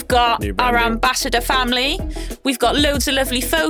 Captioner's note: speaks faintly